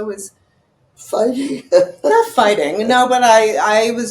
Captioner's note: laughing